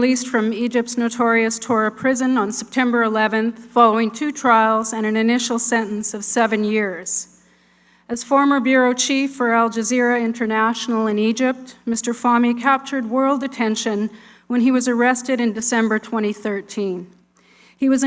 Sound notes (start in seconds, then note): none